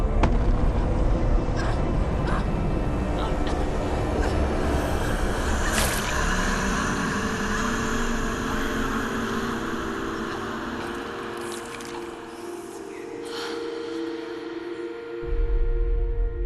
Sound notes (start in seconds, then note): 0.6 crying; 6.6 screaming